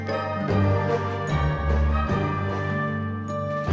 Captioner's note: bells chiming